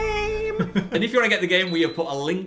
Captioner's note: laughs